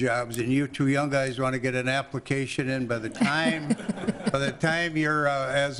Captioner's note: laughter